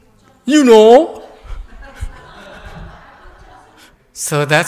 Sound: laughter

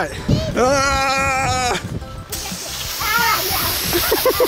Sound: silly string fun continues with screams and laughter

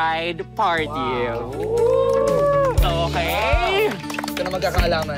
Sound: cheering, clapping

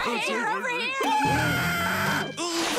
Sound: screaming

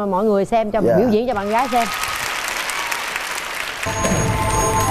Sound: audience applause

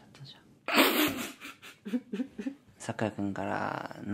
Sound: cracking up

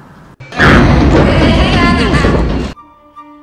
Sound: pipe walls banging

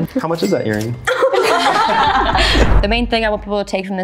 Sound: everyone laughs

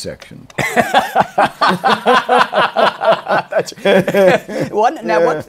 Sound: laughter

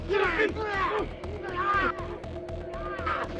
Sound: Ed exclaiming

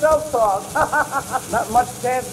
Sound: laughter

